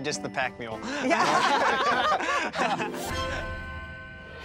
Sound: laughter

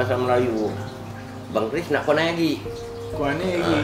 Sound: Malay language

